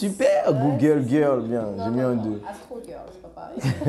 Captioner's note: laughs